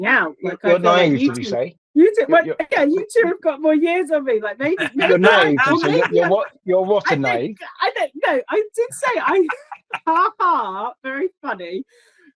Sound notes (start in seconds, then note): 4.5 overlapping chatter and laughter